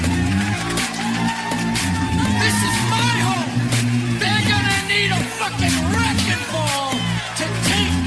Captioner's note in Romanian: Aplauze